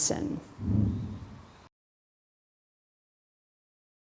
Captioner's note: air whooshing